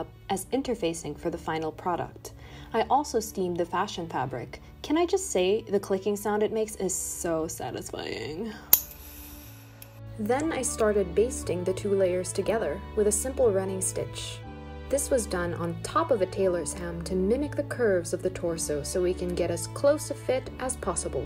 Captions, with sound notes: As interfacing for the final product I also steamed the fashion fabric Can I just say the clicking sound it makes is Sooooo satisfying [heavenly click] Then I started basting the two layers together With a simple running stitch This was done on top a tailor's ham to mimic the curves of the torso So we can get as close a fit as possible